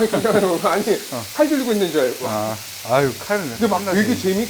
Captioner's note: hahahah